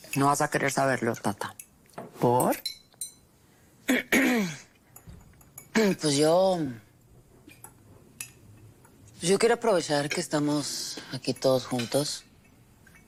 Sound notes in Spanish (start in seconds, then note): 3.9 Carraspea